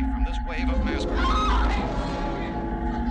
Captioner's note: screaming